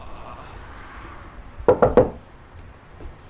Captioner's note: knocking on the door